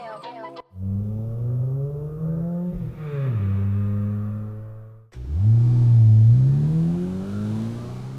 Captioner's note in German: Fahrgeräusch